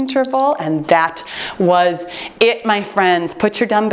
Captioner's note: timer beeps